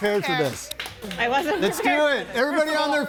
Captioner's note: laughs